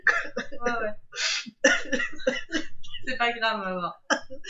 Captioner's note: choking with laughter